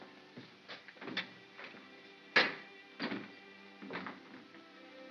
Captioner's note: door opens & closes